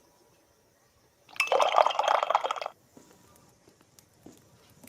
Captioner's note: tea pouring